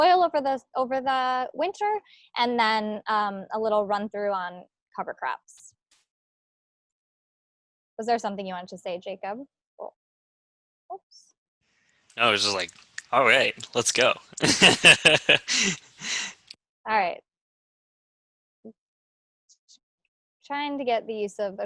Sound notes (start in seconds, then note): 14.4 laughs